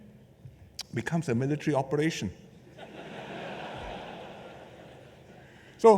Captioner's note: laughter